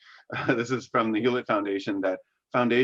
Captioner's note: chuckles